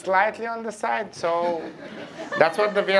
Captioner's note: laughter